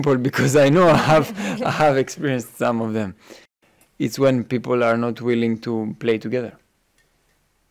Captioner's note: laughing